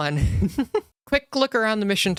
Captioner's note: laugh